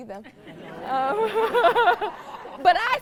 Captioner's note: audience laughs